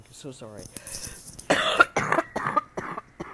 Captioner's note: coughs